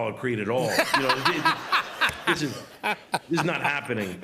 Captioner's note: laughter